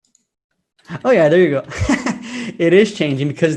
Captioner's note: laughs